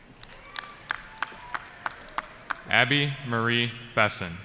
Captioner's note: applause